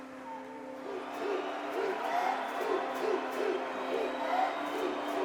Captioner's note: crowd chanting